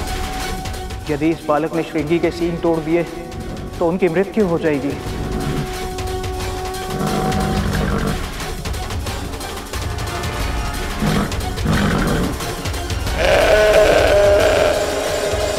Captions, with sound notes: If this boy breaks Shringi's horns he will die. [dramatic music playing] [bull roars]